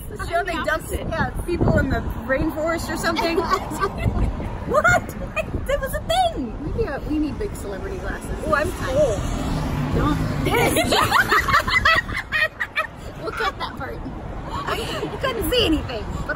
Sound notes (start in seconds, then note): 3.1 others laughing; 10.4 all laughing